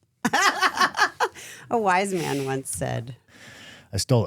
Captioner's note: laughing